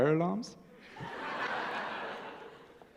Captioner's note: laughter